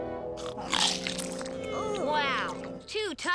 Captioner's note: chomps loudly; Lizbeth groaning